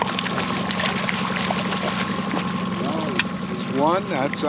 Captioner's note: fish splashing